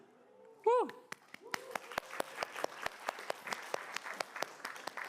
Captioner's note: crowd clamoring and clapping